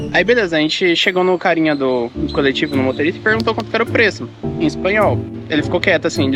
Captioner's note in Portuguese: em espanhol